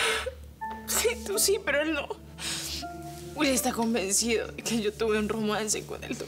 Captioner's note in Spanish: Sollozos